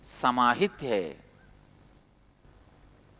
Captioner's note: hindi